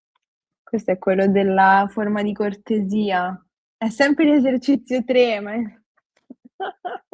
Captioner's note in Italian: risate